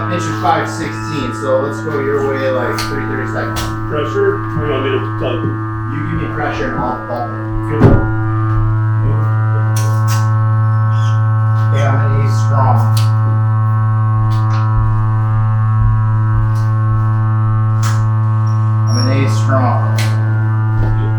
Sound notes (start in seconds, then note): 7.8 stone slab thuds; 9.0 machine buzzing; 10.3 tape rattles; 13.3 machine buzzing